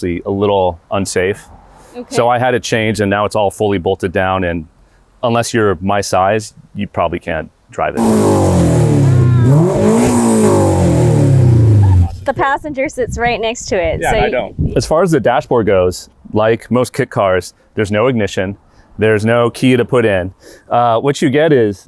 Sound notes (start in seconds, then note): 10.5 engine revs